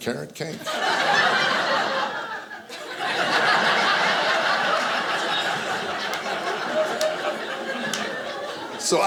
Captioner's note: audience laughing